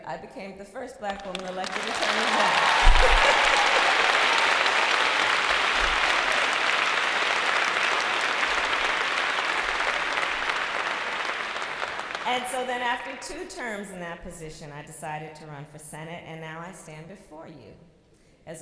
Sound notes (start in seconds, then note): 2.8 laughter, applause